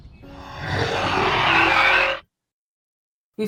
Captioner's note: beast gets closer